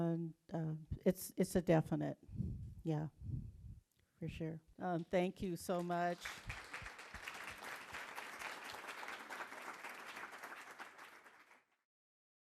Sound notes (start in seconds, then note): 7.6 applause